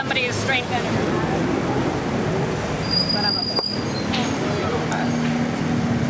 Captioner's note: speaking in foreign language